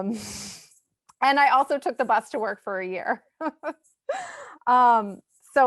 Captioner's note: laughs